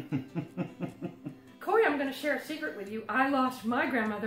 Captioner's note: laughs; more giggles